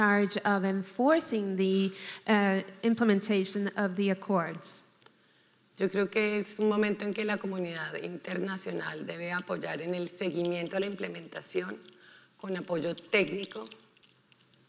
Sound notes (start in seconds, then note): 5.8 speaking in foreign language